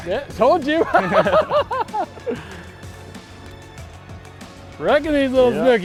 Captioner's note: laughs